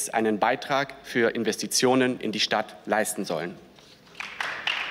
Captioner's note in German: Beifall